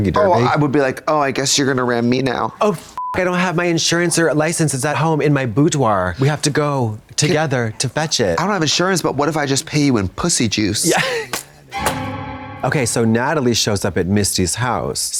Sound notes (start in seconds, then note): 3.0 beep; 11.7 eerie tone